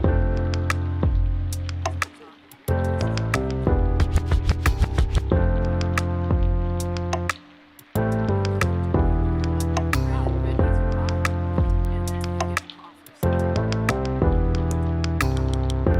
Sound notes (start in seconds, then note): 0.3 soft music; 11.7 members chattering